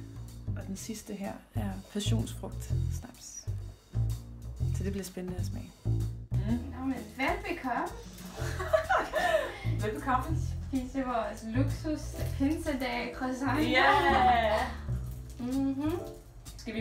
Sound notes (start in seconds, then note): 8.4 laughs